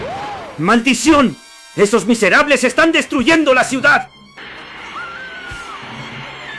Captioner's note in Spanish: grito